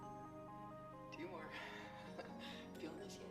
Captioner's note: laughs